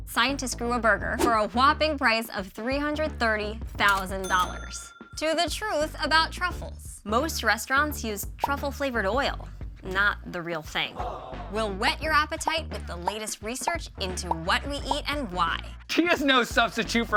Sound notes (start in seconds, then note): 10.9 people moaning